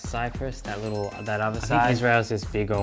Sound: bell sound

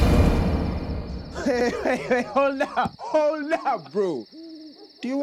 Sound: laughing

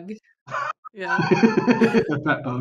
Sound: laughter

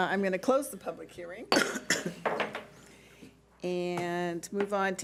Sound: gavel bangs

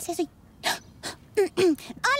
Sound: gasp

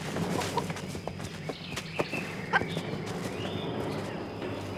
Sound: chicken clucking

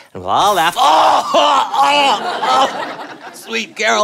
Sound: groaning and gagging

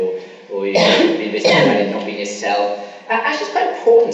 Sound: coughing masks speaker

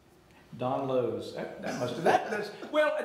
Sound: laughing

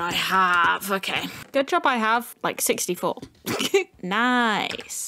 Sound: giggle

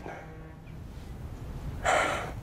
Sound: sighs

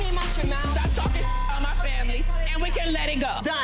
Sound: beep

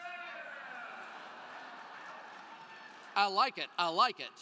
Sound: crowd cheering

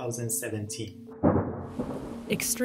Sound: thunder rumbles

